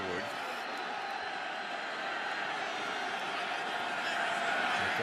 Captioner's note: crowd clamoring